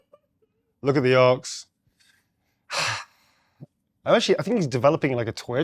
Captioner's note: sighs